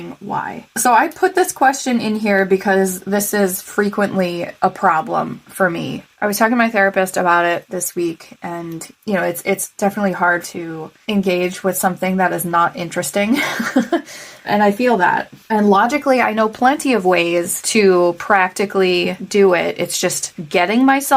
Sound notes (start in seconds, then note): 13.4 laugh